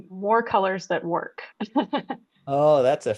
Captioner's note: chuckles